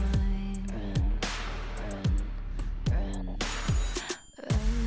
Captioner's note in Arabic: شهقة